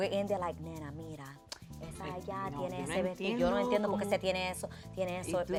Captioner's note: both speaking spanish